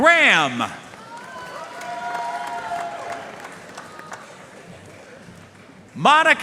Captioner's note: audience cheering and applauding